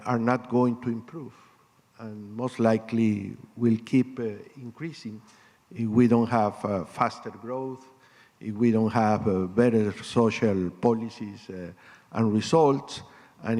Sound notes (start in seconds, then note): none